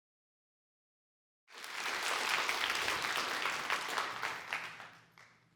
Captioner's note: applause